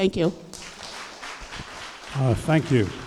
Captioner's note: applause